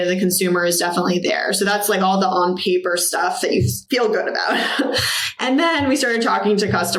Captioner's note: laughs